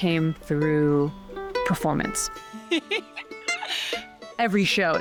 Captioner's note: laughing